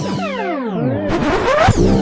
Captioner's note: record scratch; teleportation sound